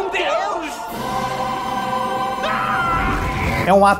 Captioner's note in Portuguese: grito